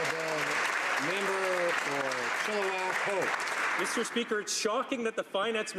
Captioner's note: some Applause